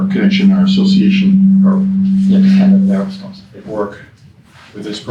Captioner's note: mic buzzing